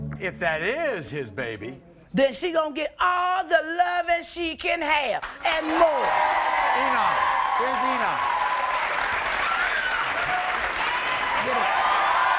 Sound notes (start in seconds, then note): 5.4 crowd cheering